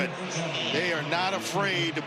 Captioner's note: none